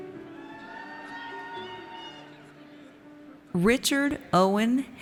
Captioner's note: audience cheers